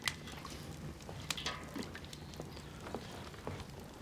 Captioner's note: fire crackling